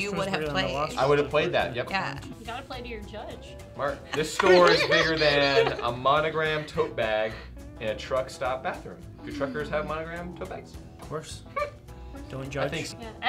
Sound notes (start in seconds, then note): 3.9 laughing